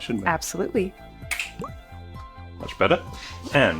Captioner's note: fingers snapping